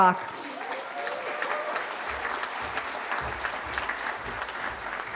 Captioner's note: cheering